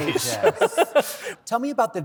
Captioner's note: laughter